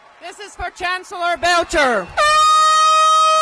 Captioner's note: applause